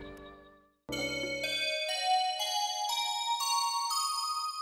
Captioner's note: electronic tones